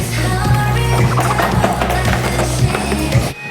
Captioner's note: flap